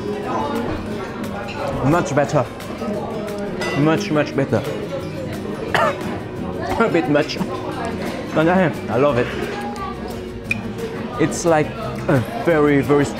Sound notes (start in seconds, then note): 5.6 cough